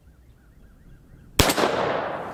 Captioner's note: pistol fires